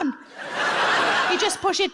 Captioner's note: audience laughs